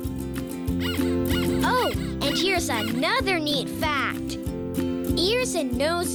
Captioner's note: squeaking